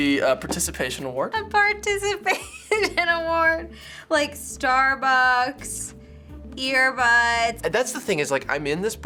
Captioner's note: chuckles